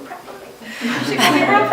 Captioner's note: laughter